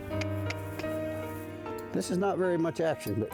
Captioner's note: trainer clucking